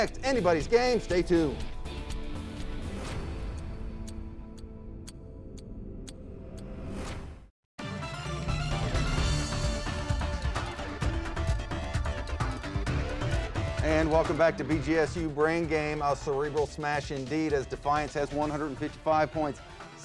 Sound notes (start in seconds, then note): 2.4 clock ticking; 2.4 dramatic music; 8.0 upbeat music